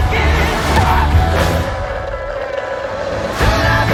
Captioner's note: slurping